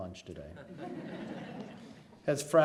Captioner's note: laughs